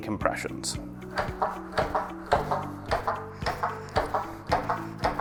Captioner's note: CPR dummy chest clicking